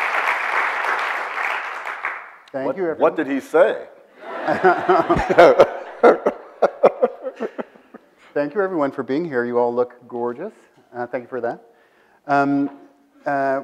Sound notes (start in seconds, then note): 4.2 audience laughs